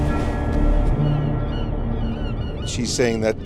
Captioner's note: birds cawing